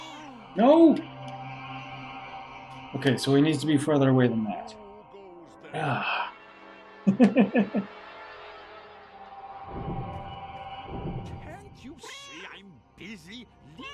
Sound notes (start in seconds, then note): 7.0 chuckles; 13.7 Hodge meowing